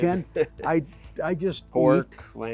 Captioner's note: laughs